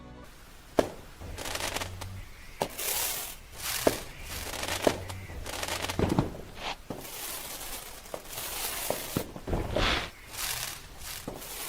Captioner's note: firework noises